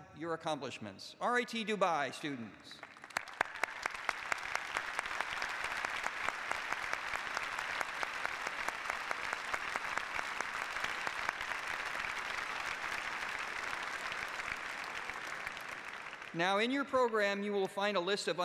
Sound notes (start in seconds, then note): 4.4 applause